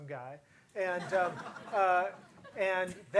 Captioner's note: audience chuckles